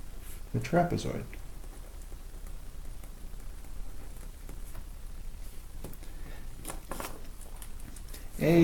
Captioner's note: writing Sounds